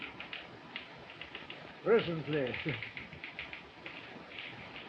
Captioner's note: chuckles